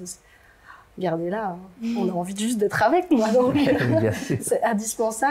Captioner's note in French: rires